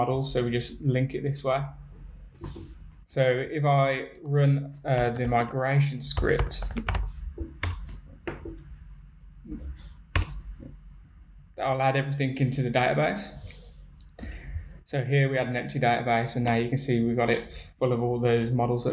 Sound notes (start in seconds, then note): 6.1 tapping keyboard